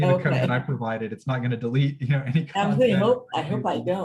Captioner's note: laughter